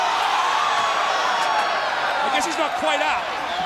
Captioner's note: crowd cheering